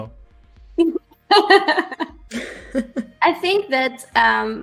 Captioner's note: laughter